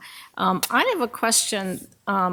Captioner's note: none